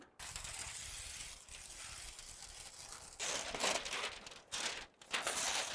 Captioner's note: paper rustling and slicing